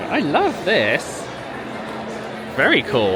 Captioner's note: guests chattering